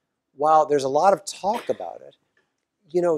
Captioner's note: cough